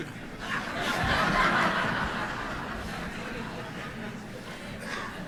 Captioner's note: congregation laughs